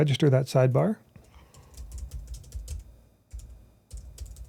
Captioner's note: keyboard clicking